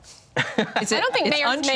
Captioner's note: laughs